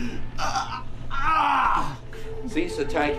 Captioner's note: strangled cries